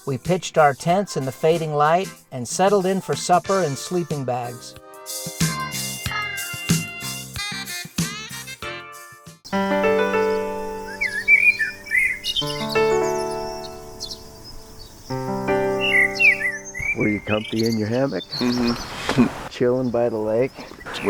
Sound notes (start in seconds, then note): 10.0 blackbirds chirping; 18.3 laughs